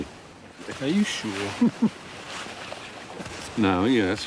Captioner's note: Stephen chuckles